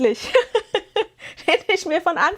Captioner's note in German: gelächter